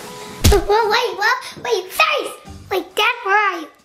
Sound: thuds

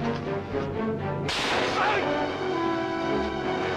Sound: groans

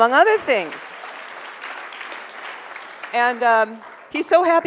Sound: audience applause

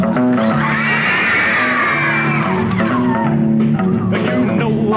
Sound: audience cheers; upbeat music

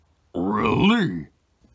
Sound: interested noise

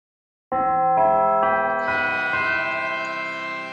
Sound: bell chimes

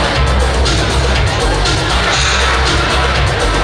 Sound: audience murmuring

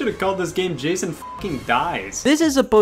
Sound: beep

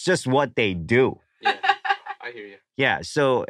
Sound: laughs

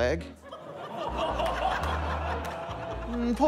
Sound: laughter

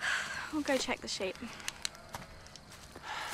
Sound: sighs

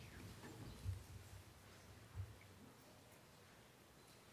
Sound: none

